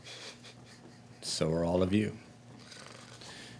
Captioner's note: chuckling